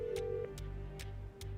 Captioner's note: line ringing